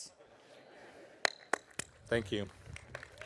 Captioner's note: audience applauding